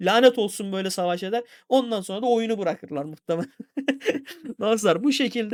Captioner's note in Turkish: kahkaha